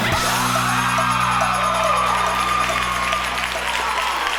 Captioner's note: group cheers